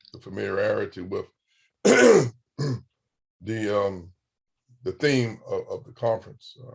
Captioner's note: clears throat